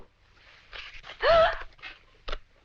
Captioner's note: Janet gasps